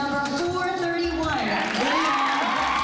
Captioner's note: cheering and applause